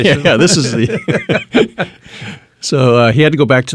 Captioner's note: laughing